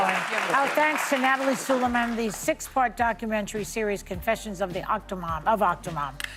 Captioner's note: applause